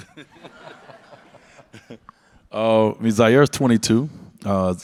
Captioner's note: Dwyane and audience laugh